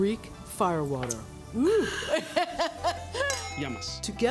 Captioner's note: laughs